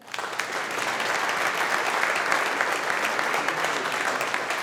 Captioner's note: audience applauding